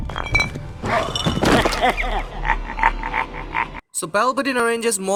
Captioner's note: evil laugh